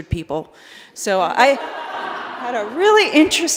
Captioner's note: laughter